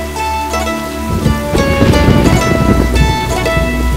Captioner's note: Clouds thundering